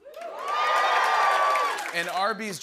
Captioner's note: cheers